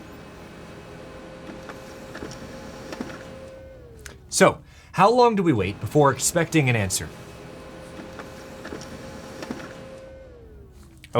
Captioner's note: printing noises